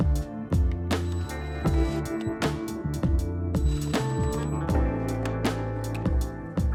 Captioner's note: lively music; drill whizzing